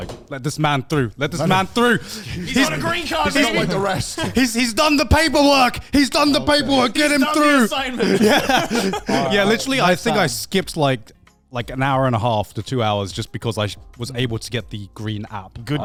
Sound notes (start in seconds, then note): 8.8 laughs